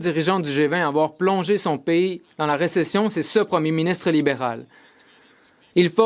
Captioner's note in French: voix de l'interprète